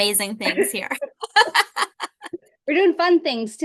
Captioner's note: laughs